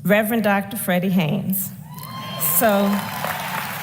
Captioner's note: applause